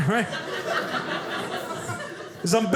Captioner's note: audience laughing